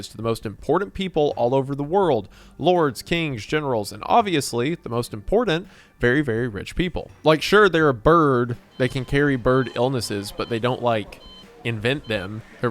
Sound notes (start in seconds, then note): 8.5 monitors beeping